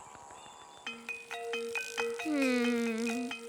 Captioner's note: gasps